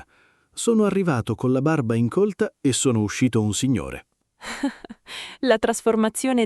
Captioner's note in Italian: Haha